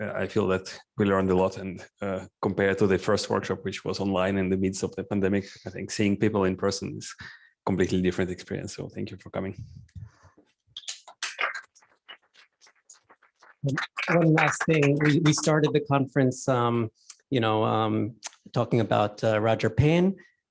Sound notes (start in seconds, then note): 10.3 applause